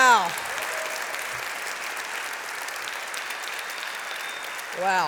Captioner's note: applause